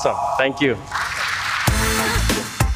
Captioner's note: upbeat music; applause